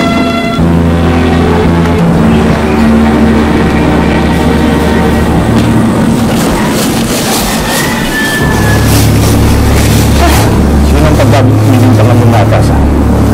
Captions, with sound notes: -[ominous music playing] -[gasps] Who'll get blamed for devouring you?